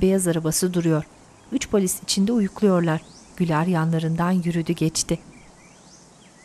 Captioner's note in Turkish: Kuş sesleri